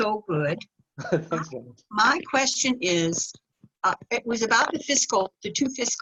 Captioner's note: laughter